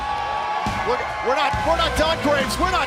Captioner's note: crowd cheering